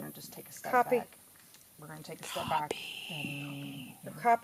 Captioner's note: me, whispering